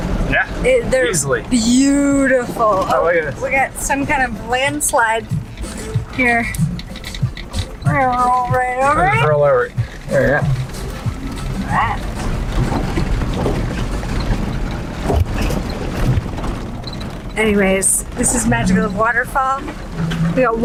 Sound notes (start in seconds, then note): 14.0 car bumping